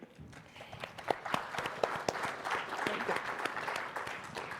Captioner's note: audience applauding